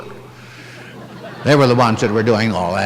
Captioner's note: chuckling